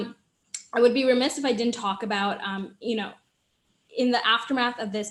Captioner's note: smacks lips